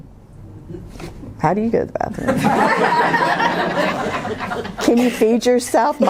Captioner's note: laughter